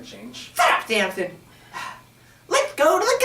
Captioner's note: Sampson and Francis both sigh